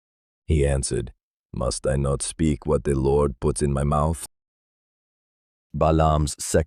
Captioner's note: thoughtful